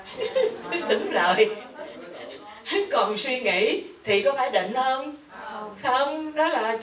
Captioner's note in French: Rires